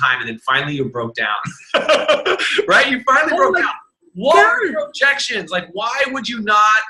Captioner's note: laughs